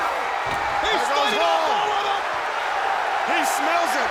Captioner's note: Tony speaks faintly